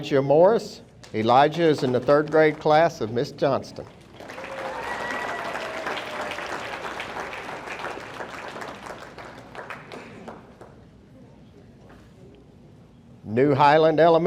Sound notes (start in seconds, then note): 3.8 audience applauding; 4.1 audience cheering